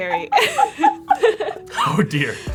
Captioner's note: laughs